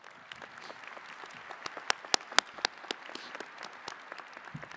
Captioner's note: attendees clapping